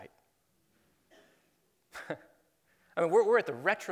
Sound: chuckles

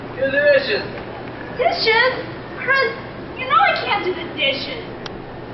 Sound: whining

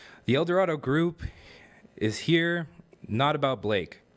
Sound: none

